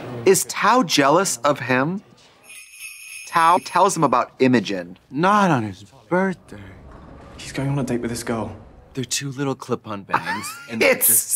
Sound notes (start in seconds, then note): 2.4 sleigh bells jingling